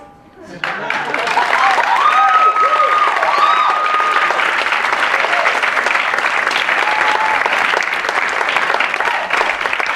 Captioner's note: applause